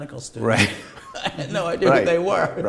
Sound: laughter

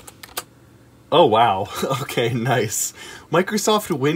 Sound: giggles

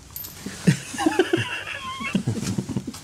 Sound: lads Lads Lads Laughter

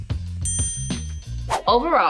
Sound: bell dings

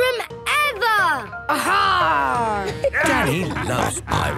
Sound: laughter

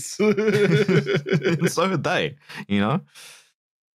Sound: laughter

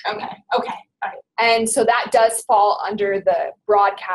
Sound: voiceover

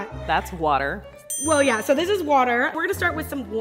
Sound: ding

